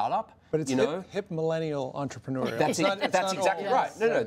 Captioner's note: laughter